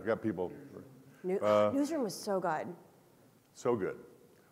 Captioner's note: huffs